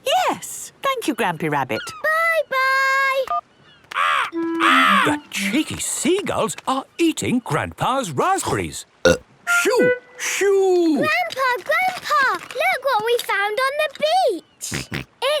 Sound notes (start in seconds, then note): 3.6 seagulls cries; 9.2 burp